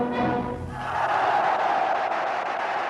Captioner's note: cheering